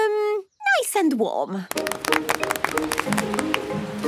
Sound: applause

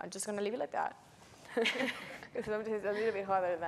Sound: laughs

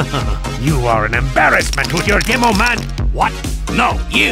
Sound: short laugh; rattling stops

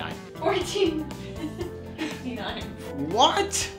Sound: laughs

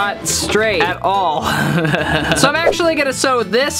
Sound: chuckles

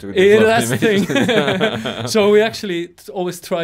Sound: both laughing

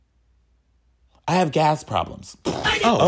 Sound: lip-trilling

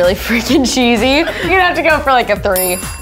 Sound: laughing

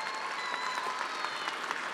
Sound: attendees cheering and applauding

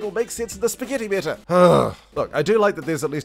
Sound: gasp

